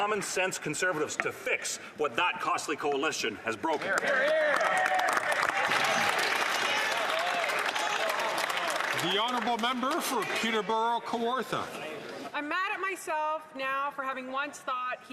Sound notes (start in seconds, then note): 10.5 some Applause